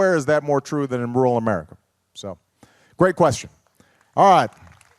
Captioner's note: applause